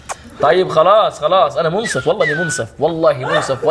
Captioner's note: chuckles; whistles pleadingly